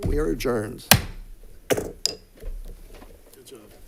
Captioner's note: gavel thuds